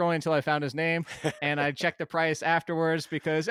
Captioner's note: laughs